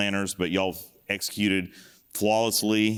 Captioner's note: none